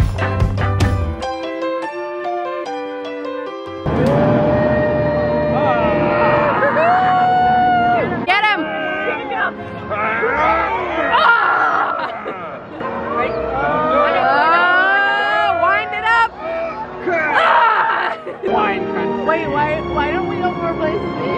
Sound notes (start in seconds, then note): 3.9 cheers; 9.9 excited screams; 17.1 frustrated screams